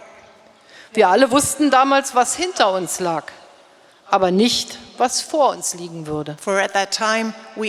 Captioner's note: speaking in German